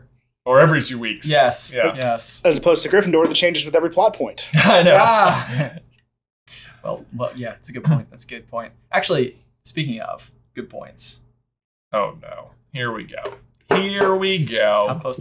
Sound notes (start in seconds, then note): 4.5 laughter